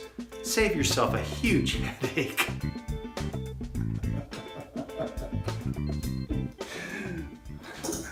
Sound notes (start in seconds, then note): 3.8 laughing